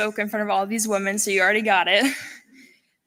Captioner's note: laughter